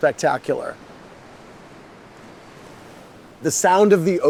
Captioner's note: ocean softly whooshing